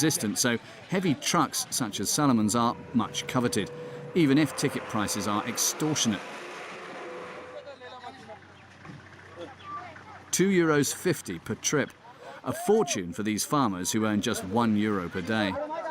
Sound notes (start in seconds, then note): 6.4 indistinct chatters